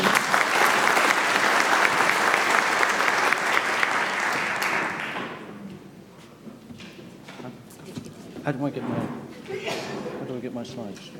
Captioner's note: applause